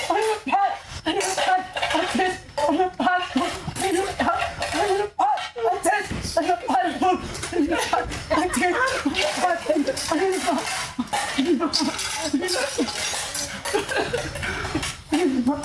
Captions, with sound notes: You cafe staff A family lad Those wild animals All are just kids (laughing)